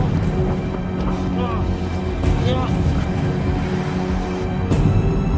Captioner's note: engine revving; all grunting